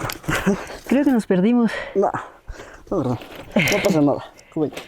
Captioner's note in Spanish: Risa nerviosa